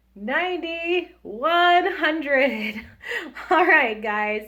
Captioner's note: laughs